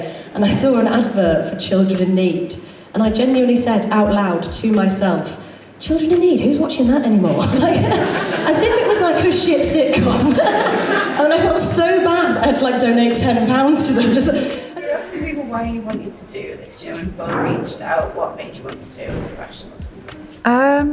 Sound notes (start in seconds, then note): 10.1 audience Laughs